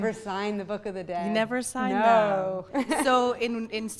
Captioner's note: voiceover